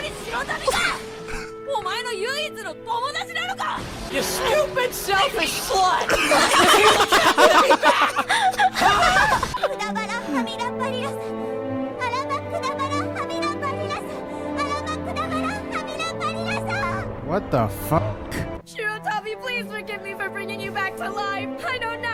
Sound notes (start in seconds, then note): 0.1 speaking in foreign language; 6.0 everyone laughing; 10.0 speaking in foreign language; 13.3 dramatic music